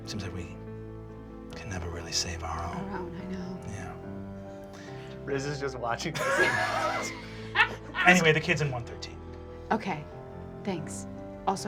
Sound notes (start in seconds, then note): 4.3 deep voice; 6.1 laughter